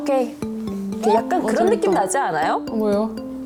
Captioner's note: idea sound effect